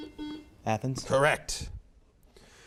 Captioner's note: buzzer beeps